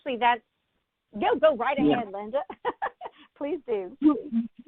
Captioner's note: laughs